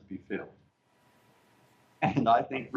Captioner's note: laughter